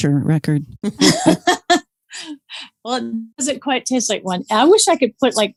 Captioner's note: laughs